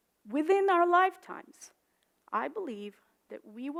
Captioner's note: none